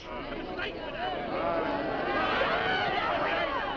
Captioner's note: crowd shouting